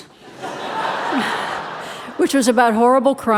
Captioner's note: audience laughing